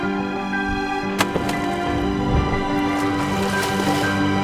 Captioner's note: water splashes